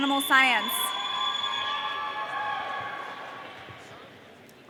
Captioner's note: audience cheering